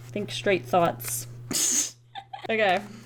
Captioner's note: laughs